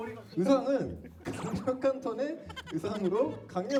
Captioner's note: laughing